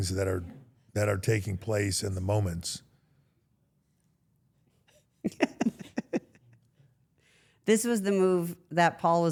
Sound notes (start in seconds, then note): 5.2 Steph laughs